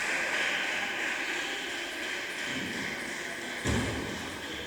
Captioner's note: applause